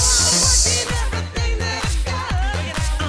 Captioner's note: breathing